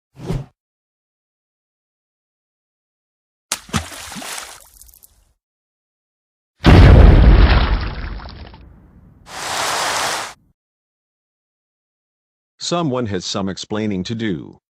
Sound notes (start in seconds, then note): 3.5 splash; 6.6 boom!